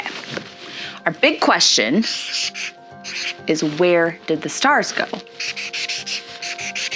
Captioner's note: pen scribbling